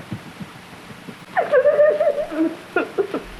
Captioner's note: Clara crying